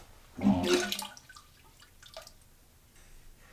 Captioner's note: vomiting